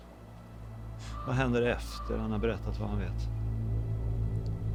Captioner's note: A bird caws